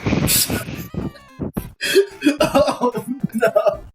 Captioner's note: comical laughter